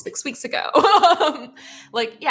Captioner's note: laughs